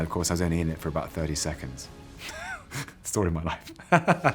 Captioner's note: laughs